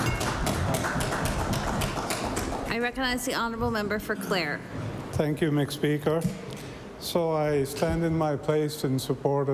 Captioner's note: applause